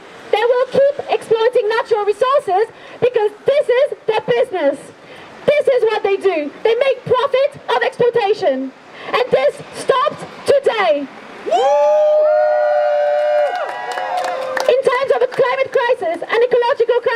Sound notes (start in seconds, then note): 11.4 crowd cheers